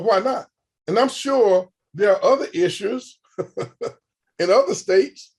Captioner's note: chuckles